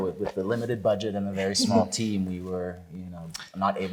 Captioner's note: chuckles